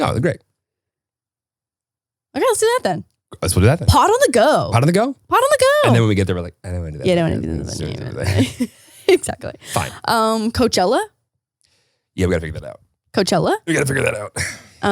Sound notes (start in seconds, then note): 7.5 muttering; 8.1 laughs